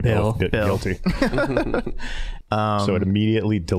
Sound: all laughing

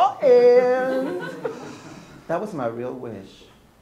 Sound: people are laughing

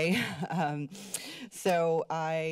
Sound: giggles

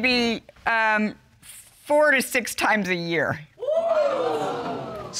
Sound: audience exclaims

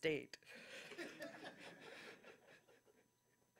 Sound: audience chuckles

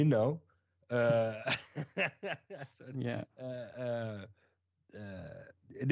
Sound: laughs

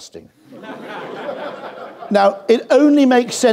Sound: audience laughs

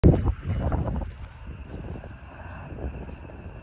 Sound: plane Engines

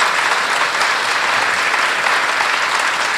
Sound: applause

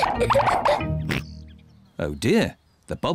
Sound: oinks

